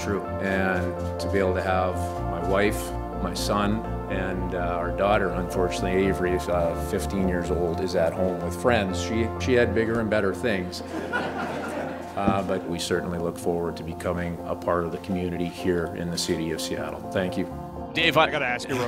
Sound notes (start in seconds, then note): 10.8 laughter